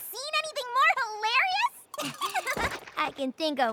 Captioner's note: laughs